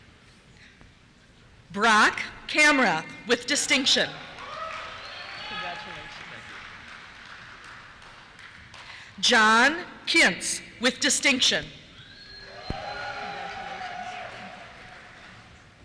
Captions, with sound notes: Brock Kamrath, with Distinction. (cheers) Congratulations. John Kintz, with Distinction. (cheers) Congratulations.